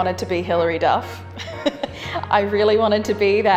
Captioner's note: laughs